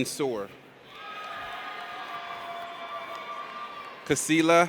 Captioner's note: audience cheers